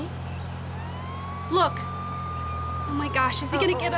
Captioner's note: police siren wailing